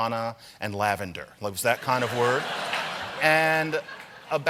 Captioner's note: laughter